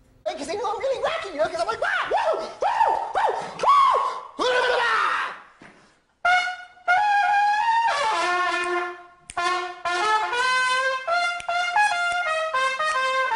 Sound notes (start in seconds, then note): 4.4 screaming; 6.2 trumpet playing; 9.7 snapping